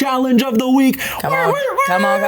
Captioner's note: imitating siren blaring